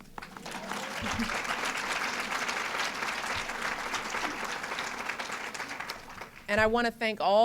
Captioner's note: applause